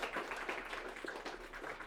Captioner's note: applause